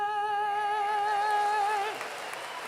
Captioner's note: applause